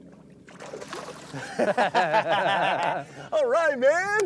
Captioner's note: laughter